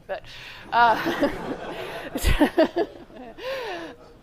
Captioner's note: laughter